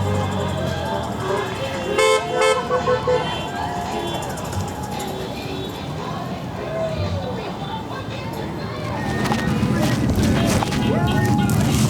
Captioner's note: crowd cheering